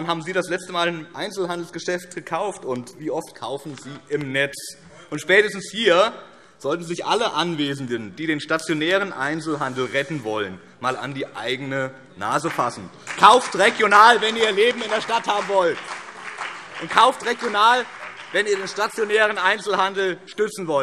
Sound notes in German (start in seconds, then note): 13.4 Beifall BÜNDNIS 90/DIE GRÜNEN und CDU